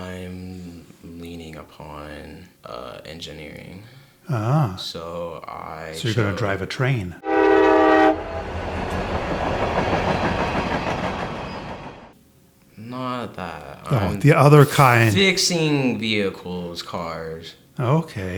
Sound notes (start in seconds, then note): 7.2 train horn blows; 8.6 train clattering